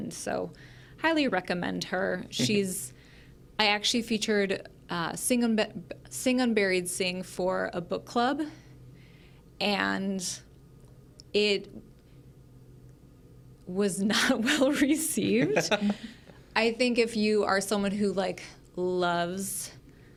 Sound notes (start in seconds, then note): 15.2 laughs